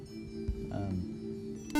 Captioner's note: buzzer